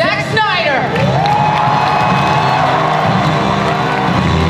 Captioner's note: audience cheering and applause